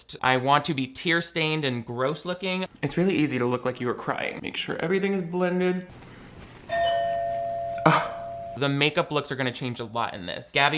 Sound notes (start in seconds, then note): 6.7 doorbell chimes; 7.8 scoffs